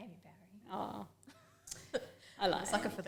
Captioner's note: laughs